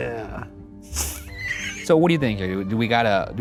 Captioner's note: laughs